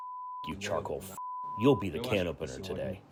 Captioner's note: through translator